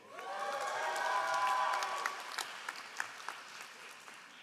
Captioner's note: all applauding